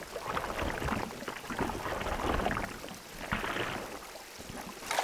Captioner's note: water splashing